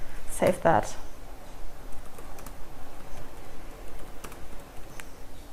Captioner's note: typing